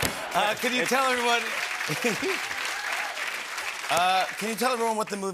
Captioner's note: cheers and applause